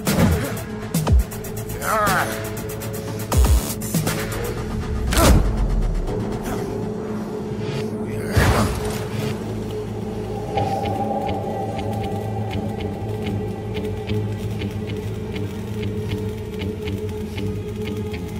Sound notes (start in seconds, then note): 0.2 ominous music; 5.3 spine snaps; 7.1 ominous music continues